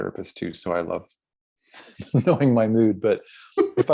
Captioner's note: laughs